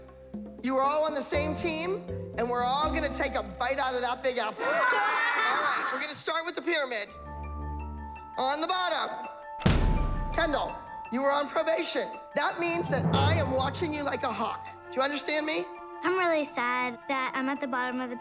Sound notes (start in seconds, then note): 4.6 laughter